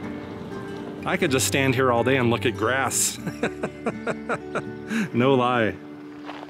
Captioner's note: laughter